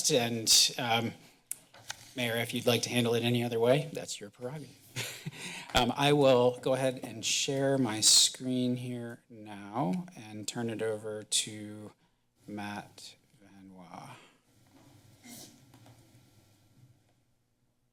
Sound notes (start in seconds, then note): 4.9 chuckles